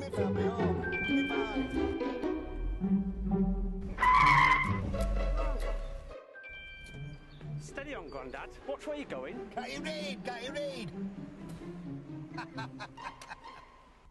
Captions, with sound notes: (Screeching brakes) Steady on Grandad! Watch where you're going! Can't you read? Can't you read? Ha ha ha